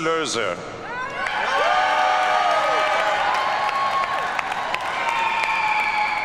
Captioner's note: audience cheers and applauds